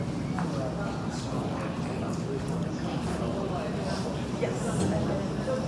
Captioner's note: people continue chattering